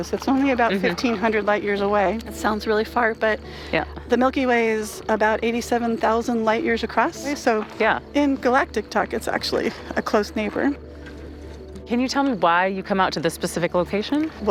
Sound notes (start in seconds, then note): none